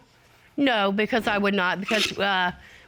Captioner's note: scoffs